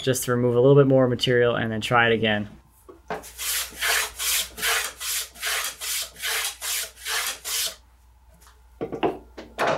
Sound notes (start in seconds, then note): 3.2 tool scrapes